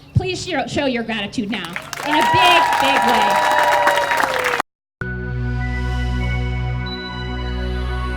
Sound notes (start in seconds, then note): 1.6 applause and cheers